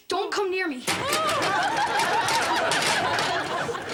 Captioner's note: audience laughter